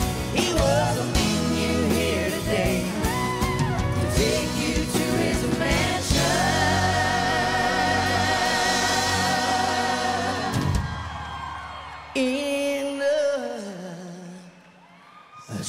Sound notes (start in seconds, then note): 10.4 audience cheering and applauding